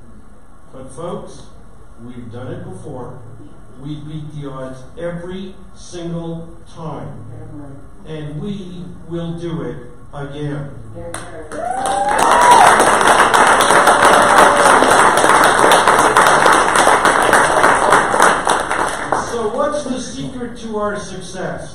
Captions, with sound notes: But folks, we've done it before. We beat the odds every single time, and we will do it again. [audience cheers and applause] So what's the secret to our success?